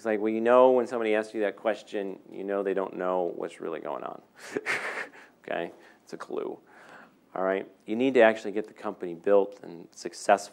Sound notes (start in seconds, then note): 4.4 laughing